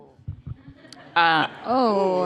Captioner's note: laughter